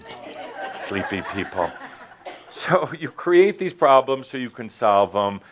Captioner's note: some laughter